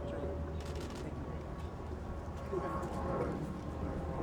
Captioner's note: camera clicks